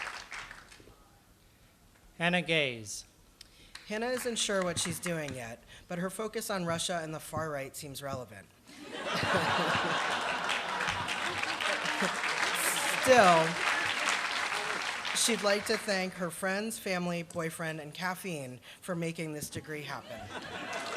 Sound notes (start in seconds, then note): 8.7 laughter; 20.6 applause